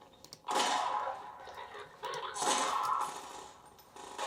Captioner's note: gun exploding